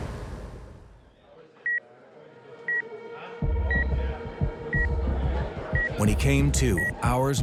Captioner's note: beeping